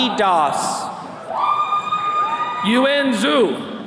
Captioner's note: attendees cheering